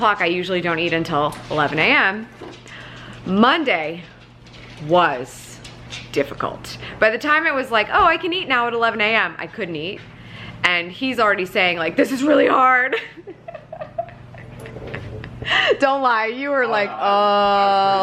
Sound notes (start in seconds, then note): 13.0 laughing